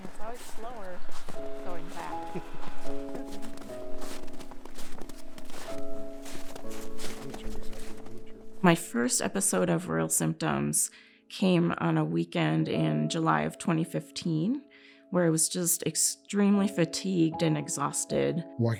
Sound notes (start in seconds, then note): 2.3 group laughing